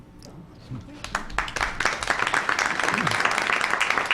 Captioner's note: applause